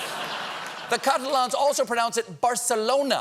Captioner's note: laughter